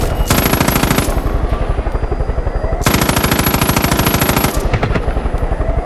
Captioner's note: gunfire